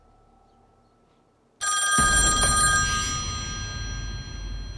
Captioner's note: phone ringing